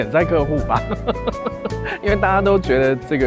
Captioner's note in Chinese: 笑聲